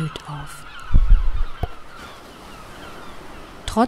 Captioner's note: seagulls